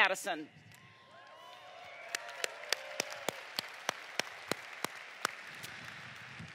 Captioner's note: applause